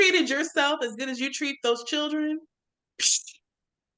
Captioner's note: shushes